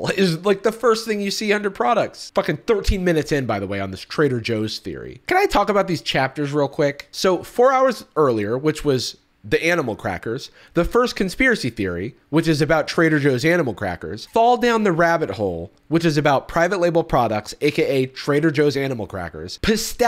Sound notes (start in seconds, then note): none